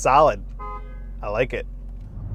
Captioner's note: car horn honking